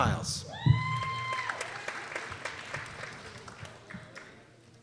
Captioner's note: people cheering